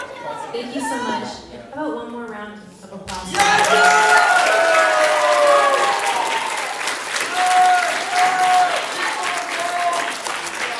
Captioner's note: applause